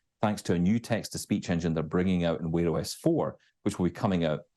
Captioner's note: none